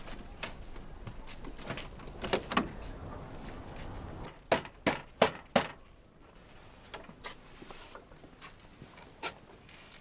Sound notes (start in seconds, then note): 4.5 knock on the door